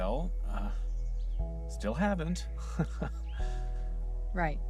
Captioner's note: nervous laugh